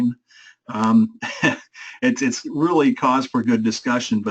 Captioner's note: laugh